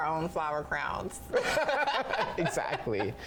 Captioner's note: both laugh